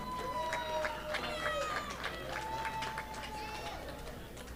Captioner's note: audience applauding